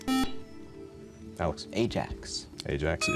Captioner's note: buzzer